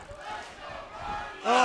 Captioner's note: fans chanting